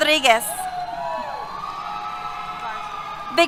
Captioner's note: cheers